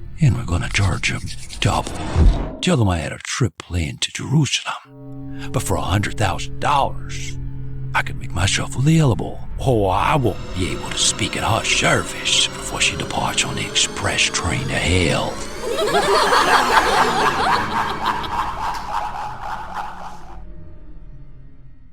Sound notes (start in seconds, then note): 15.5 laughter; 17.6 cackling